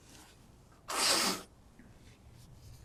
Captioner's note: wiping nose